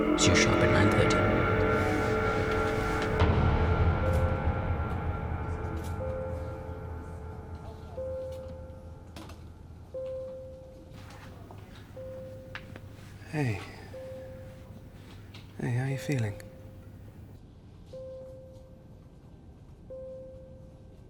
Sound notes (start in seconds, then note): 4.0 machine beeping; 18.1 machine beeping